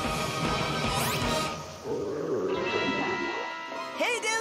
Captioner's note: stomach growls